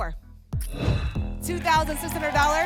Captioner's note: whoosh